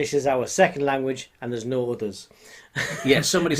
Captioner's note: laughing